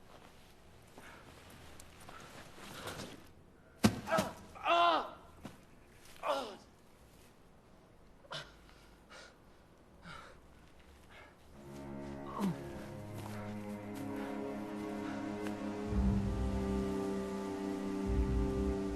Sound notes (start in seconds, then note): 4.6 Thomas yells in pain; 11.5 melancholy music